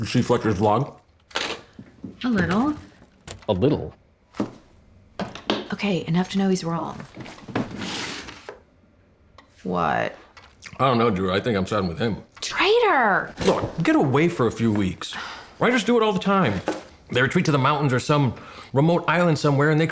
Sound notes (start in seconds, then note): none